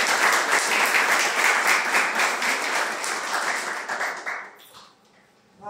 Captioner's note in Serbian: аплауз